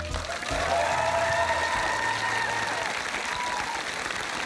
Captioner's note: applause